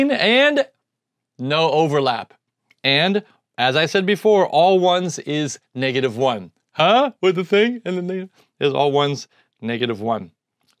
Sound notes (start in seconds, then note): 6.7 goofy tone